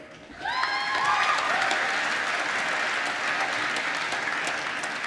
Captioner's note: applause